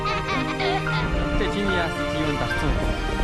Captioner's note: laughs